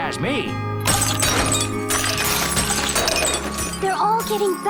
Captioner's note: ice breaks